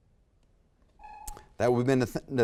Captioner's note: timer sounds